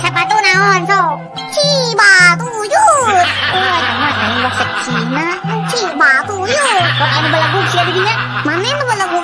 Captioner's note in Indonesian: tertawa